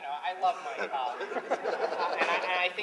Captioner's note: laughter